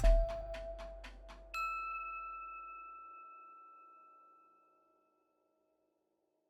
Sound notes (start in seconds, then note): 1.5 bell ringing